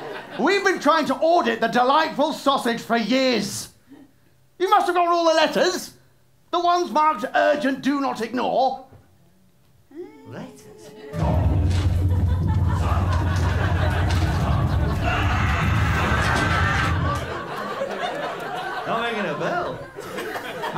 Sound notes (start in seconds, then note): 0.0 laughter; 11.0 satanic music; 14.3 screams